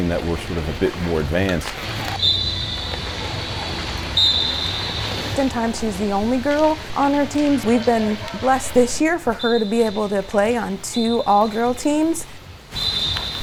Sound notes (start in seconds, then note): 2.1 whistle blowing